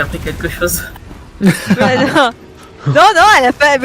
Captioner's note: laugh